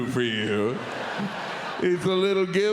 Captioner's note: audience laughs